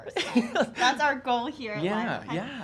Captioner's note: laughter